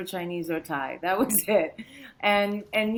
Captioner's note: chuckles